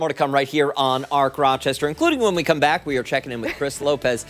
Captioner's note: laughter